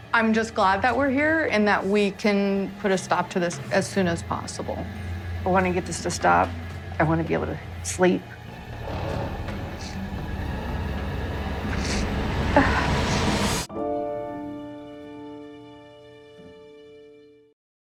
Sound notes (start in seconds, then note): 8.2 dramatic music; 11.5 sobs